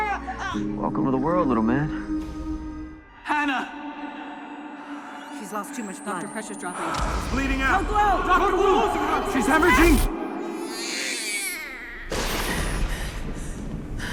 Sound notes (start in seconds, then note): 10.5 newborn crying; 12.2 thunder rumbles